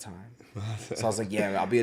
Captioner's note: laughs